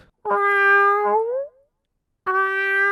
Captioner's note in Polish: miauuuu